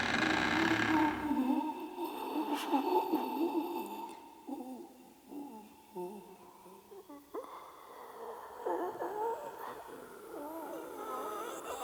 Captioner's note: cabinet creaking; pained moans